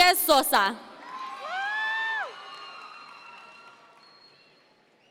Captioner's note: audience members cheer